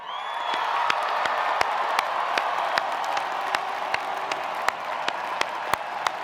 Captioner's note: attendees applauding; attendees cheering